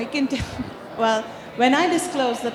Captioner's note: chuckling